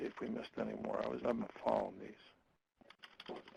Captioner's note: typing